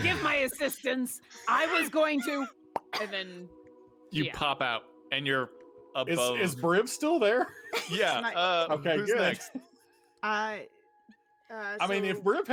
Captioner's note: pop sound